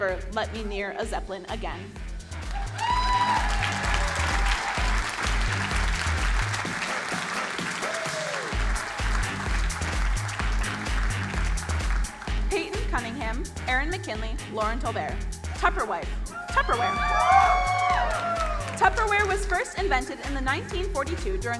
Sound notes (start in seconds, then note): 2.6 crowd cheering and applauding; 6.5 upbeat music; 16.3 crowd cheering